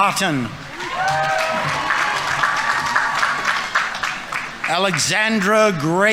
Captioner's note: audience members cheering; audience applauding